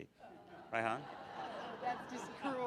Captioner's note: audience laughs